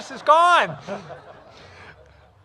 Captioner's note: laughter